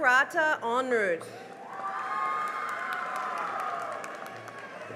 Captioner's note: cheering and applause